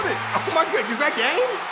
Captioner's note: fans roaring